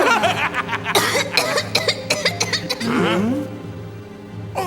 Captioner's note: coughing